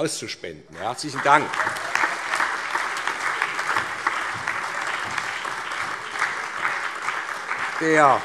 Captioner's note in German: Allgemeiner Beifall